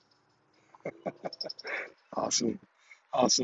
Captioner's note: laughs